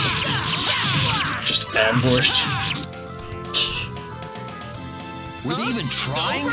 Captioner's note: laughs softly